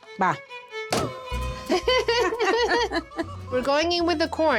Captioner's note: chuckles